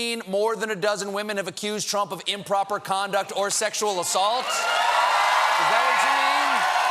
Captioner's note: cheers and applause